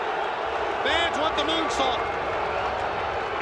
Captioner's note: crowd cheering